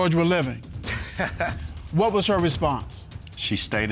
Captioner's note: chuckles